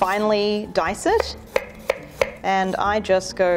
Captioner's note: knife tapping against wooden board